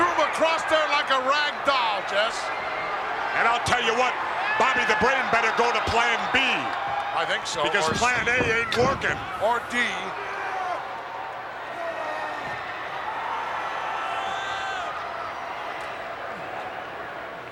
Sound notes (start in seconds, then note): 10.7 crowd cheering